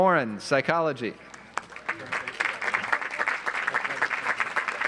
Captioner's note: audience applauds